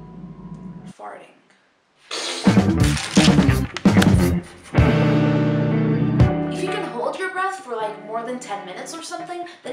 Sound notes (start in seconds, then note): 2.1 powerful fart